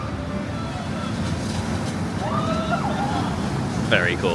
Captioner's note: guest squealing